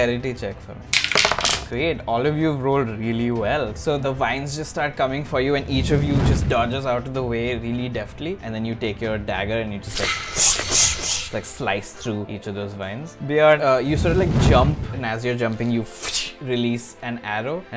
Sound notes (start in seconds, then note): 9.8 swish swish; 16.3 whoosh